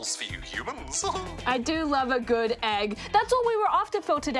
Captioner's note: chuckles